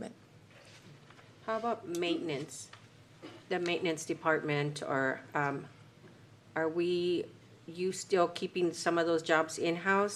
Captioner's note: clears throat